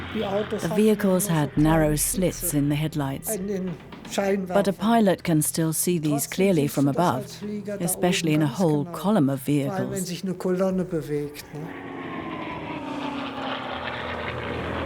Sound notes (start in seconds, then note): 11.4 planes whir